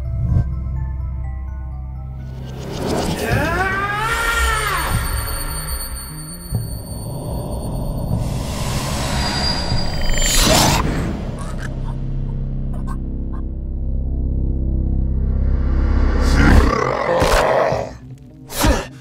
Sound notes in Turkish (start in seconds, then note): 10.8 Springtrap fısıldarmışcasına acı çekiyor